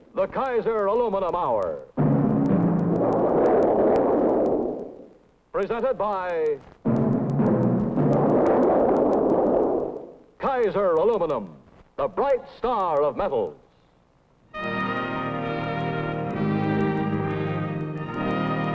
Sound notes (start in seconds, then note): 2.0 dramatic music; 2.3 aluminum clanging; 6.9 dramatic music; 7.0 aluminum clanging; 14.5 whimsical orchestral music